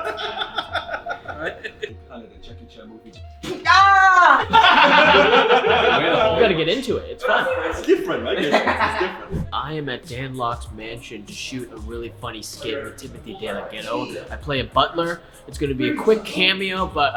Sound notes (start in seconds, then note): 0.0 laughing; 3.4 laughing; 3.6 screams